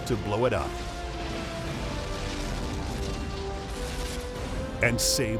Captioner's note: triumphant music; explosion booming